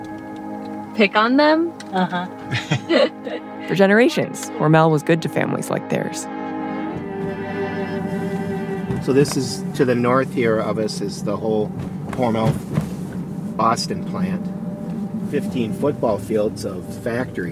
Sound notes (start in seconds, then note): 2.4 both laugh